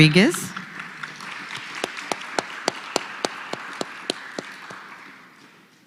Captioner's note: applause